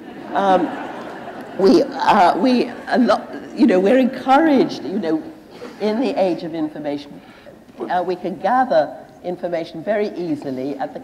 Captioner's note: laughter